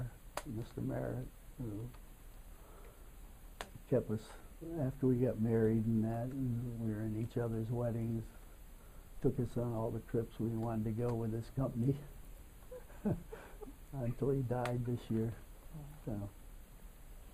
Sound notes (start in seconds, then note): 12.6 laughter